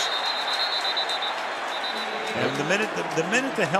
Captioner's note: whistle